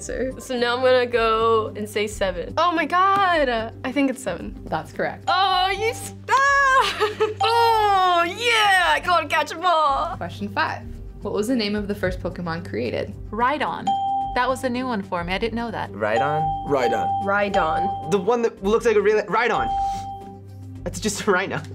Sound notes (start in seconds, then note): 6.5 yelling